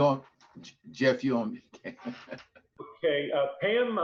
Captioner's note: laughs